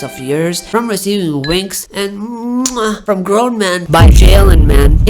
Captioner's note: mwah